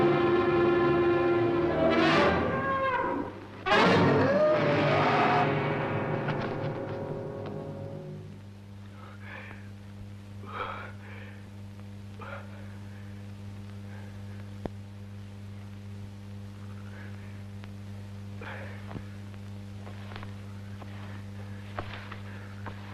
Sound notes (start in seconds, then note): 0.0 suspenseful orchestral music; 0.2 bull roaring; 9.2 panting